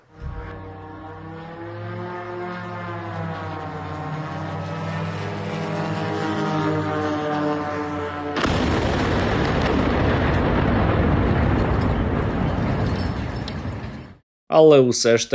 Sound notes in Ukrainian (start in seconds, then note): 0.0 звук дрона; 8.3 вибух